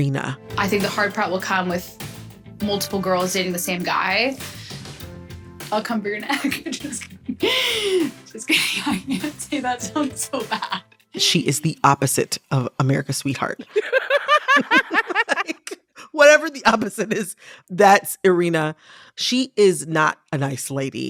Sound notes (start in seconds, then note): 13.6 laughter